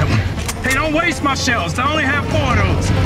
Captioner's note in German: waffe wird geladen